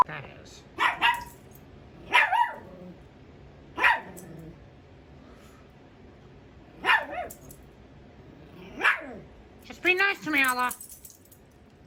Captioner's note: Ella barks at Caprice